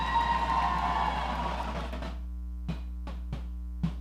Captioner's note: audience cheering